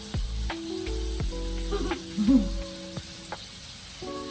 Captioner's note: laugh